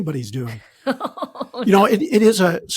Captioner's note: laughing